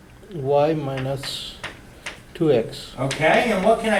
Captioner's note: voiceover